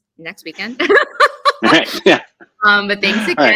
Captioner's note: laughter